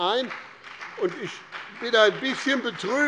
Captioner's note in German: Beifall